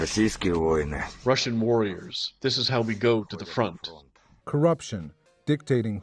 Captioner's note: through translator